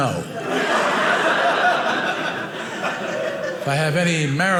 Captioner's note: audience laughing